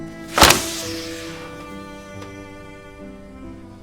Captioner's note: somber instrumental music; folder thuds